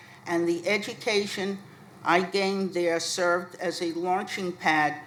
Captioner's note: none